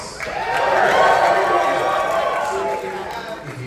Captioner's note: audience cheering